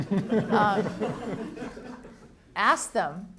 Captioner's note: audience laughing